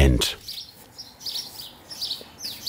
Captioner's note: birds chirping